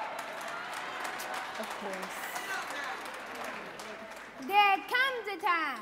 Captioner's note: audience clapping and cheering